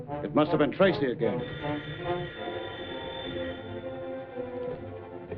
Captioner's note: phone ringing